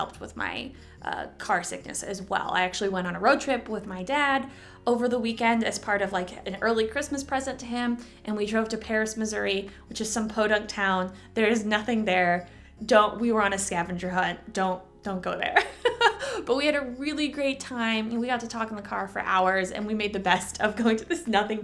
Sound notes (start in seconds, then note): 15.6 chuckle